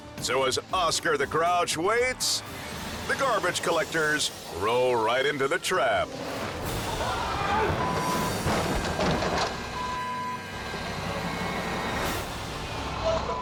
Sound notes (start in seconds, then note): 7.0 worker screams; 8.1 can thuds; 10.1 suspenseful music